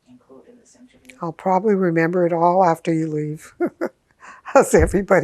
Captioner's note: laughing